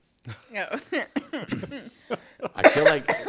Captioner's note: all laughing